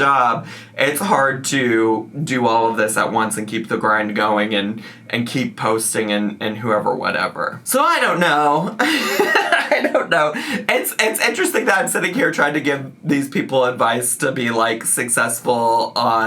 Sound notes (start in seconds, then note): 8.7 laughs